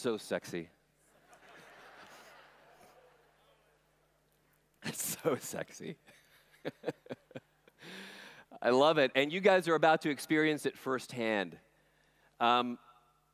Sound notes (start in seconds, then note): 1.2 laughter; 6.6 laughing